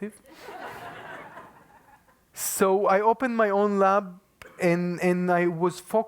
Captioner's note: laugh